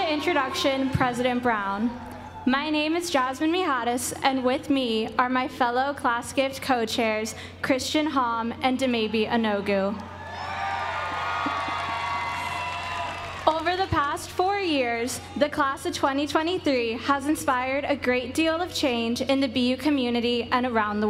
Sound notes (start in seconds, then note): 10.5 applause